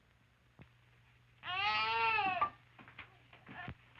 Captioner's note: baby wails